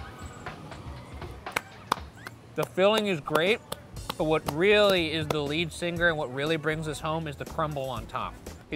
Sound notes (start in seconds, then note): 1.4 clapping